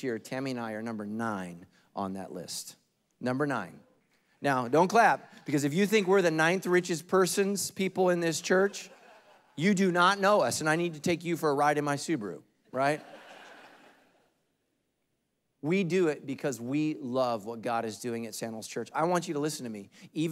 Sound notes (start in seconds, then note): 12.8 congregation laughing